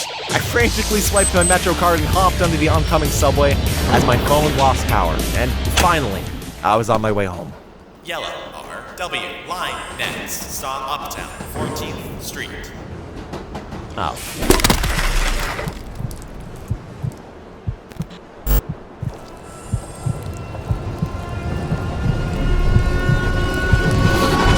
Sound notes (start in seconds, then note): 14.2 bones crunching; 15.6 heartbeat